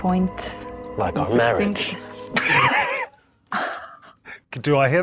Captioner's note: guys chuckle; laughs